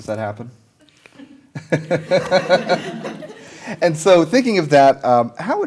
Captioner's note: chuckles